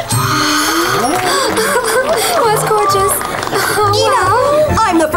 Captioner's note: gasps